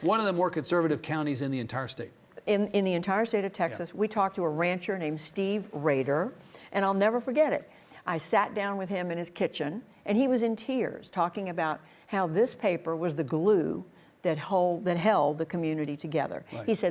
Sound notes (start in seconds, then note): none